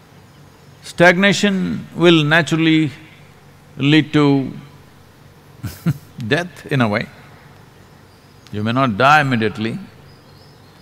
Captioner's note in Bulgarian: смях